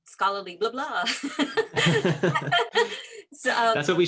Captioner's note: laughs